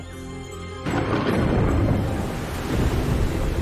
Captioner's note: thunder crackles